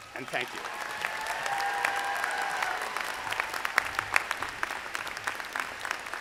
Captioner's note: audience applauding; audience cheering